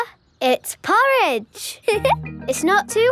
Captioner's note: giggles